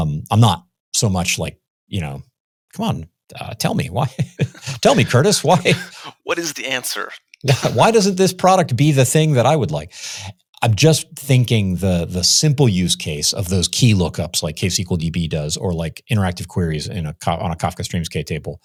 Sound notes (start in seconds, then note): 4.1 chuckles